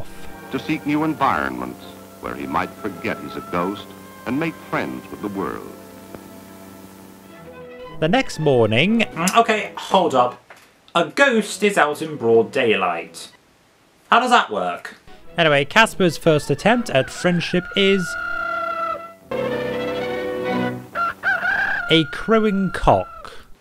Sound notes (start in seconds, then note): 18.1 cock crows